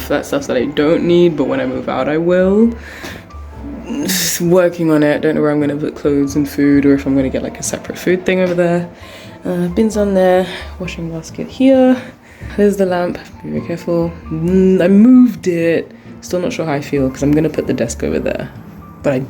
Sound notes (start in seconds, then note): 3.4 sounds of struggle